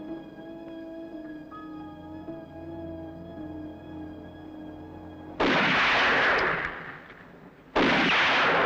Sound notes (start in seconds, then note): 5.3 gun firing